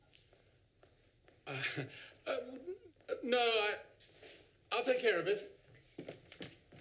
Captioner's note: laughs uncomfortably